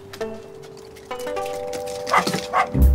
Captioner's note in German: Vorsichtige Musik; Freudiges Bellen